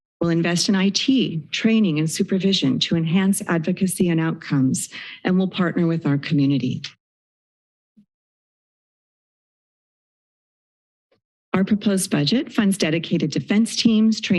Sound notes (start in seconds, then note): 6.9 silence